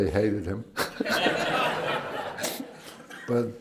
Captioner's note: laughter